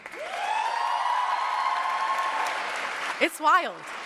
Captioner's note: cheers and applause